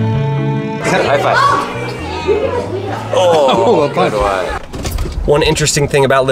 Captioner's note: chattering together